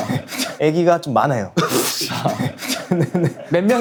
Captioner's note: bursting out laughing because of his unexpected answer